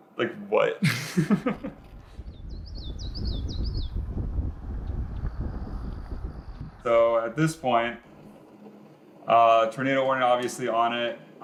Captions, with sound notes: Like what? (laughs) (birds chirping) (wind blowing) So at this point, a tornado warning, obviously on it.